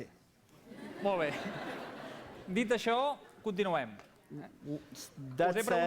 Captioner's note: non-english speech